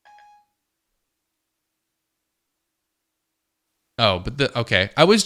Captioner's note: silence